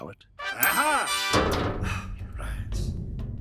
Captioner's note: musical fanfare; Rudd sighs